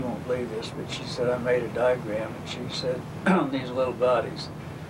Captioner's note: coughs